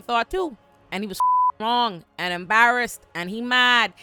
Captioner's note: beep